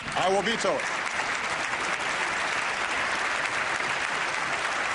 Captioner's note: applause